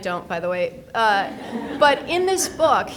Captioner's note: people laughing